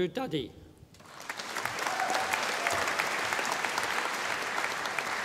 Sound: audience applauding

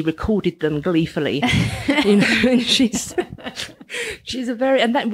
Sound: laughing

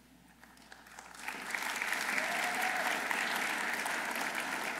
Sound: audience applauding

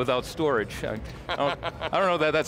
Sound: laughs

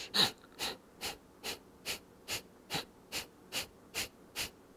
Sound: short repetitive exhaling

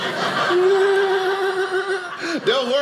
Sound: audience laughing; laughing

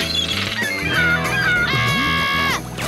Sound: squawking; screaming

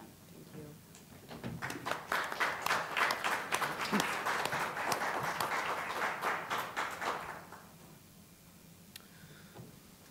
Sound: applause

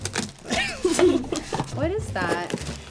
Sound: laughing

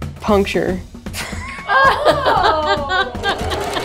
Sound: laughs loudly

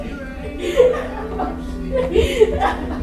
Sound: Lisa crying

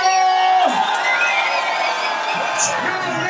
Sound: cheering

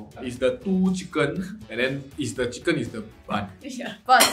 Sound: none

